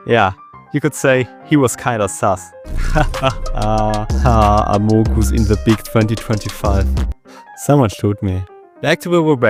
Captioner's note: sigh